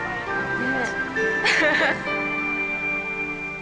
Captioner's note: laughs